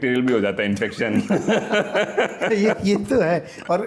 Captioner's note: laughter